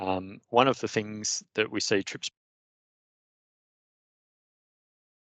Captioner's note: speaker briefly muted